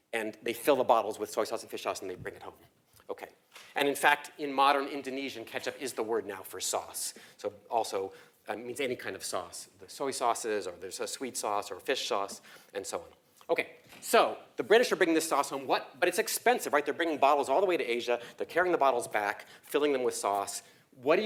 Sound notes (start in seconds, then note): none